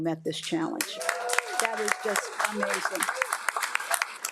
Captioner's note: audience applauds